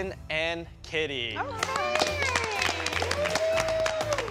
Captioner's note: applause